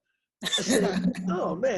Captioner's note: laughs